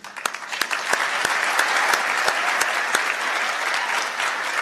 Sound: applause

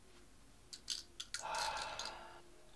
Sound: sigh

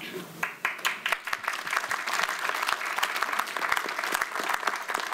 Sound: audience applauds

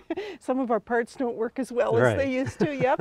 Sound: laughs

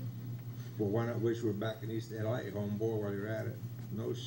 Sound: in foreign language

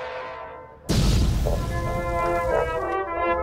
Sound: boom!!!

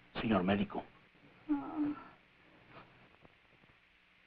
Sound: woman moans

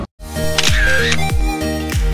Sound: camera shutter

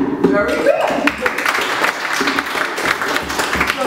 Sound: applause

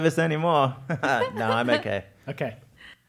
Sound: laugh

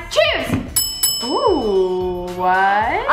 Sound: bells ring

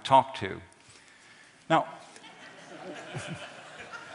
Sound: laughter

